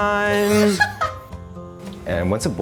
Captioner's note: laughs